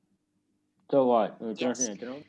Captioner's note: speaking burmese